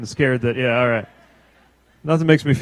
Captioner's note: laughter